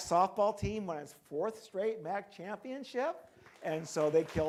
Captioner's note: crowd clapping